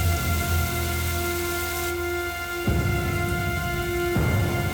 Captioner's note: water continues running